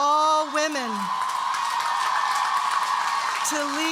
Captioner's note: audience cheering and applauding